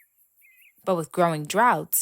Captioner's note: birds chirping